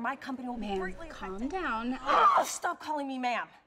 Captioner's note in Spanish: gritos